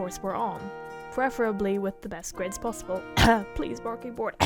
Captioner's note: cough